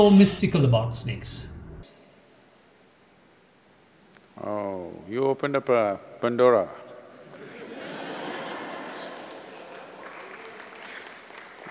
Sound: laughter

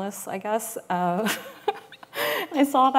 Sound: laughs

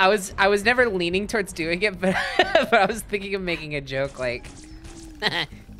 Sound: laughing

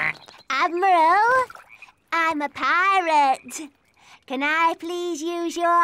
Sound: duck quacks

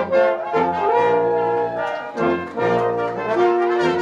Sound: cheering

